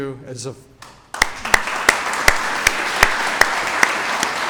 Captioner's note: audience applauds